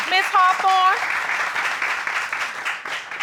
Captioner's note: applause